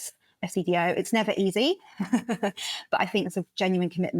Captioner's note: laugh